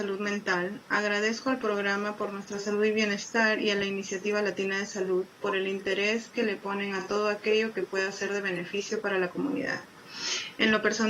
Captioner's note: spanish